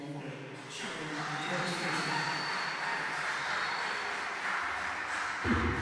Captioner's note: cheering